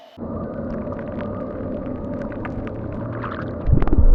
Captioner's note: ominous rustling